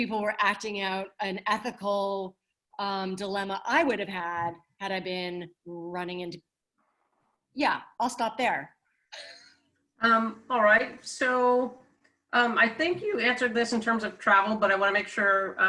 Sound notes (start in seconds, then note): 9.2 chuckles